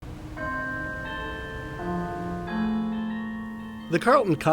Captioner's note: bells chime